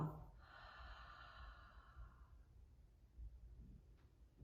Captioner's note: exhaling